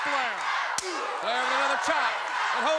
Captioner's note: blows thudding